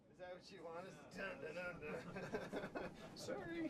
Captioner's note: laughs